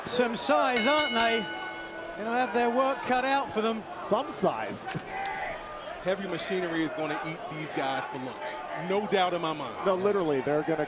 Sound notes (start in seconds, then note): 2.8 bell ringing